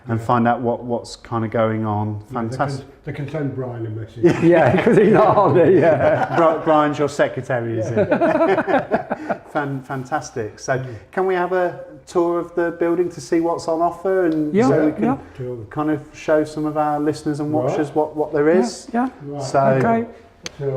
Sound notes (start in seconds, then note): 4.2 laughs; 7.8 laughs